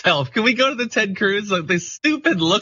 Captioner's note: laugh